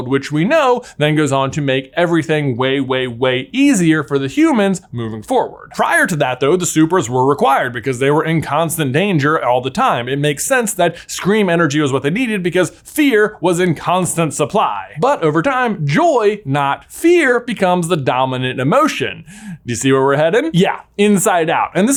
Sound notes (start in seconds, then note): none